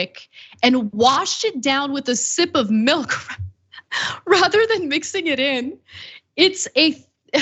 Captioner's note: laugh